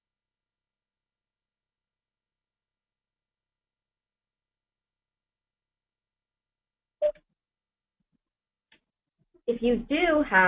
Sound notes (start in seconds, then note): 1.2 pause